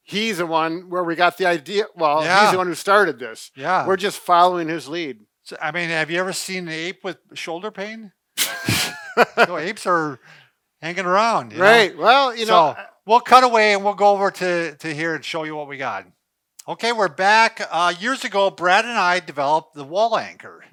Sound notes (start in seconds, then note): 8.4 laughter